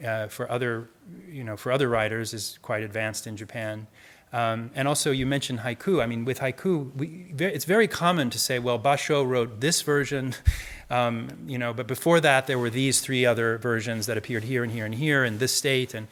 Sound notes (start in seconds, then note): none